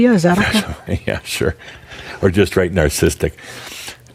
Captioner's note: Adamus chuckles